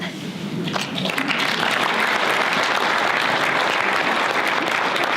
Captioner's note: audience applause